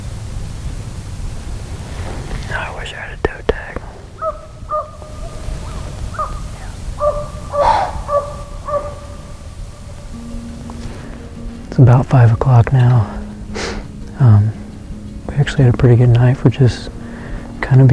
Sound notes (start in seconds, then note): 4.1 dogs barking, deer blowing